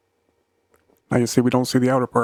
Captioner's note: silence